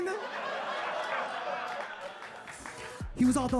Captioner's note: audience applauding and laughing